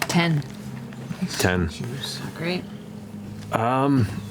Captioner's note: none